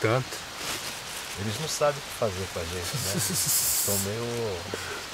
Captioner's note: chuckles